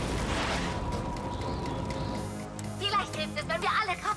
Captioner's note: explosion